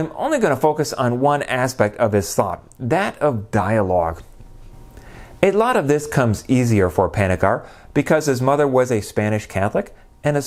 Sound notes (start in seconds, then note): none